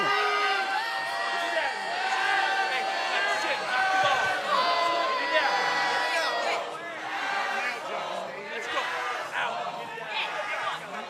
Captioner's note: crowd cheering